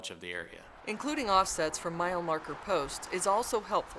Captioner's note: sounds of vehicles driving on road